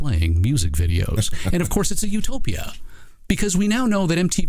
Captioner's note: laughing